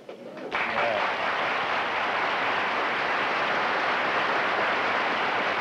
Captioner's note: applause